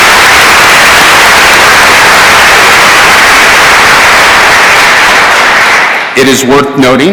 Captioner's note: cheers and applause